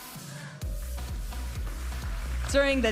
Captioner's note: audience applauding and cheering; upbeat music